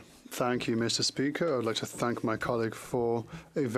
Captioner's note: speaking French